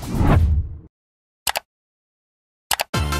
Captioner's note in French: Clic